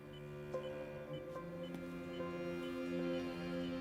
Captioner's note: somber music plays; rhythmic beeping